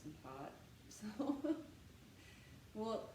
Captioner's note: laughter